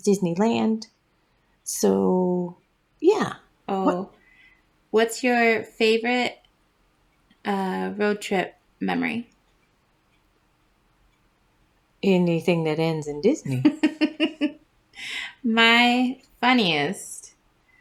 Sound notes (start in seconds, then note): 13.5 laugh